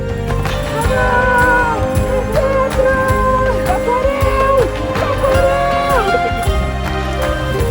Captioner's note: cheering and celebrating in portuguese